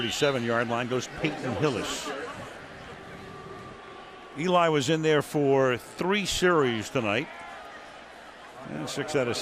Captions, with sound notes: And up to the 37-yard line goes Peyton Hillis. [booing] Eli was in there for three series tonight.